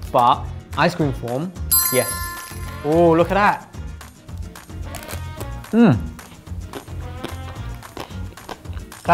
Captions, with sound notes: but ice cream form, yes. Ooh, look at that. (ice cream crunches) Mm.